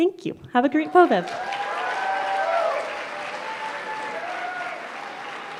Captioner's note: applause